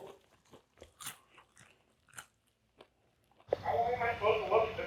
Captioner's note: popcorn crunching